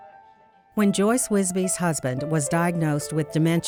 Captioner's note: voiceover